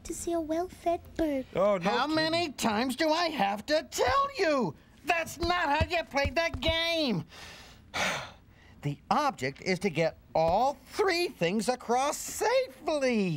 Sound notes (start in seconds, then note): 7.9 sighs